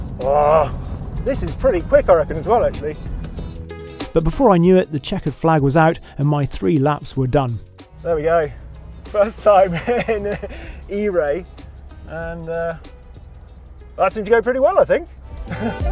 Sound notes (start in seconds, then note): 9.7 chuckles; 15.4 chuckles